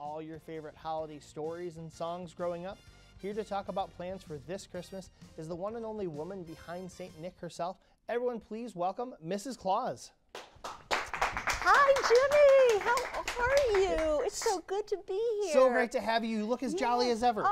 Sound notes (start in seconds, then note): 10.3 audience claps